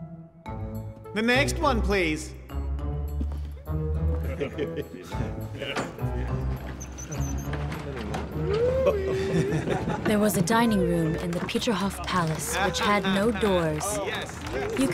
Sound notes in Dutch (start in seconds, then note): 4.0 mannen lachen; 9.2 mensen lachen; 10.0 mensen kletsen